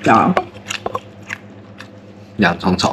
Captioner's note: chewing